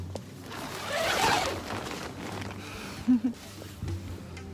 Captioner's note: zipper opens